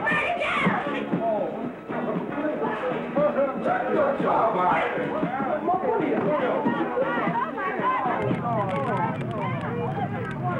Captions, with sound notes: It's burning down! (men exclaiming)